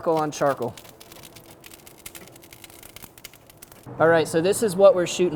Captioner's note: flames crackling